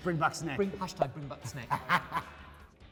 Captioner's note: laughing